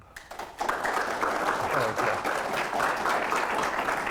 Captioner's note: audience applauding